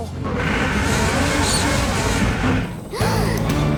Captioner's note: creaking; gasping